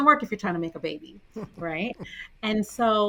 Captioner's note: chuckling